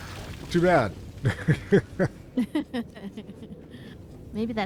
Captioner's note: laughter